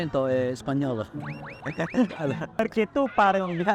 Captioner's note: laughter